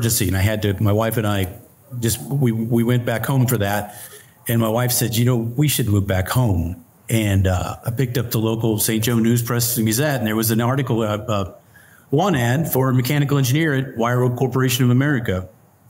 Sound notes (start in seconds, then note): none